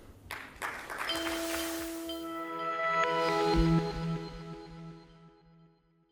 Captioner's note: audience applauding; bright music